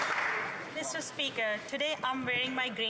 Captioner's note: applause